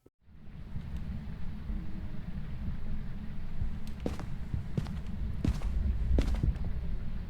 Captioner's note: slow, distant footsteps